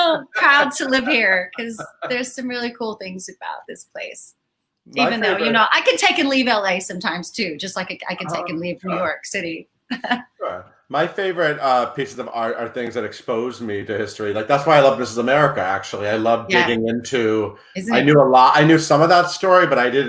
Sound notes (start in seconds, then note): 8.1 laughs